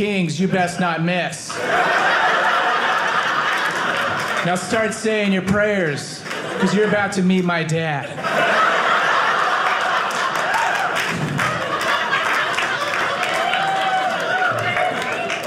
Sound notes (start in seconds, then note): 1.4 audience laughing; 8.3 audience cheering